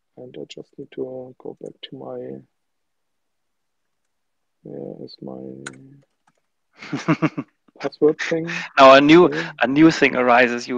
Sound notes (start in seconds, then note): 6.8 laughs